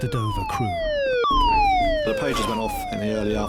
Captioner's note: sirens blare